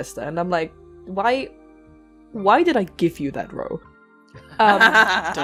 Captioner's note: laughter; laughs